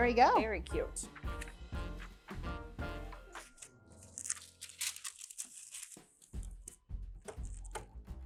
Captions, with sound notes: - There we go. - Very cute. (paper rustling)